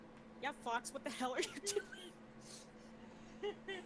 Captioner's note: wheezing